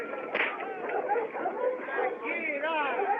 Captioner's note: whip Cracks